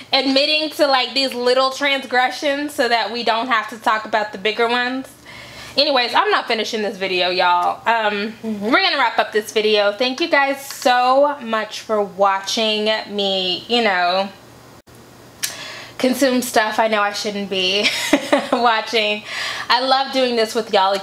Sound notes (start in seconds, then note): 17.8 chuckles